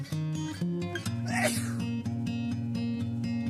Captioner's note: man sneezes